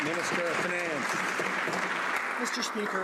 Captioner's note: some Applause